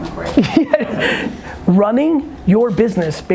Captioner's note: laughs